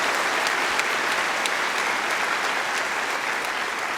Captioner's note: applause